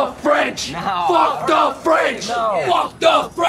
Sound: crowd

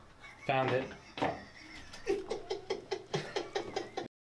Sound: laughs

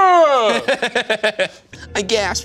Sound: laughing

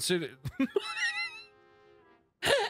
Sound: wheezing; laughter

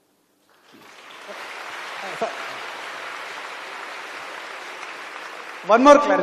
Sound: applause

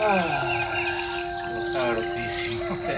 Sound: sighing

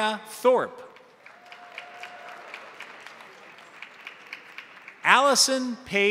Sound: crowd applauding; crowd cheering

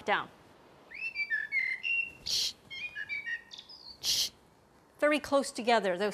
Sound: bird singing stridently

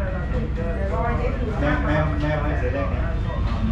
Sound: other people talk

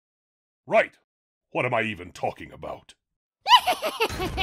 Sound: laughter

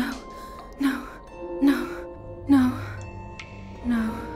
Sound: she repeats herself, her voice taking on a mechanical, automatic tone

